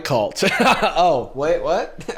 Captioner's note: laughs